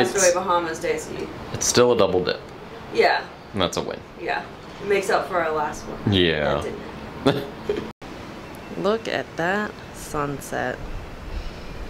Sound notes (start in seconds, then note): 7.2 laughing